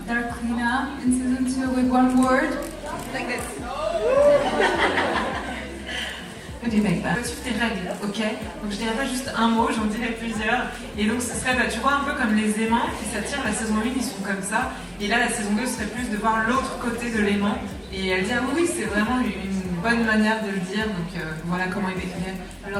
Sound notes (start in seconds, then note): 3.7 gasps; 4.2 laughter; 7.7 speaking french